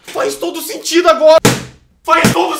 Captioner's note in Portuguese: batendo na cadeira